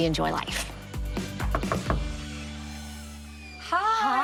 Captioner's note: knocking